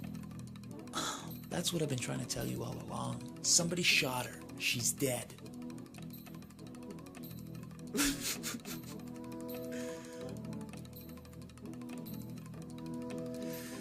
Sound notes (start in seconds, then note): 7.9 man sobbing